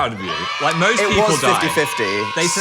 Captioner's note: crowd cheering